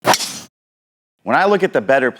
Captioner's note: golf club swings